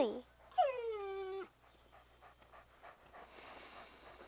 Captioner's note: Buck whining